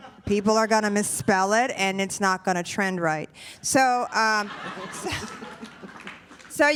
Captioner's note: laughter